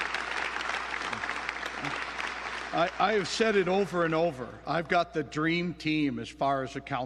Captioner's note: applause